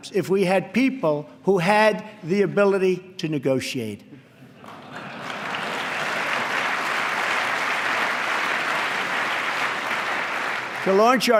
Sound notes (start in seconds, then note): 4.6 applause